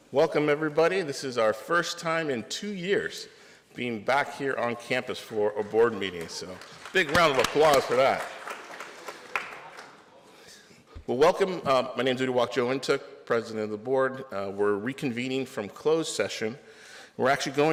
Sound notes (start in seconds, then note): 9.4 applause